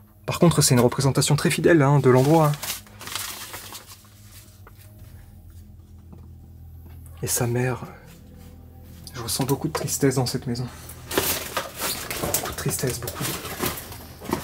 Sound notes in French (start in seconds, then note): none